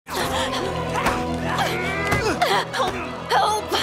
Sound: soft suspenseful music; Dupli-Kate gasps

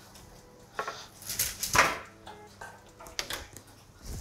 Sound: tray clatters

